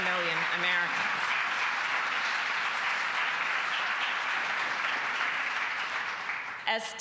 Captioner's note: applause